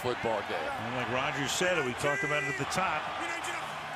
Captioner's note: cheering